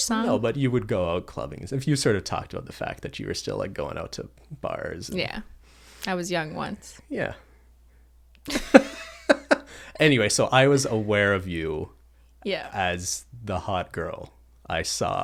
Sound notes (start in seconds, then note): 8.4 laughter